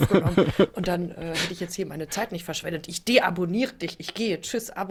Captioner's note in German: gelächter